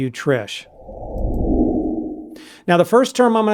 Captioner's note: whoosh